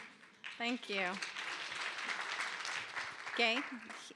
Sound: applause

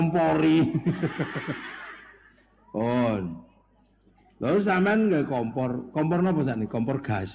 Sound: laughs

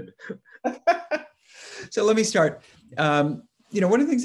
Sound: laughs; chuckles

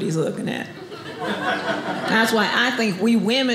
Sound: audience laughing

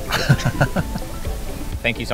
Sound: laughing

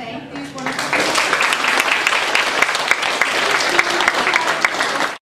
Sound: applause

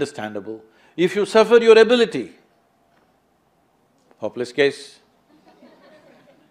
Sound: laughter

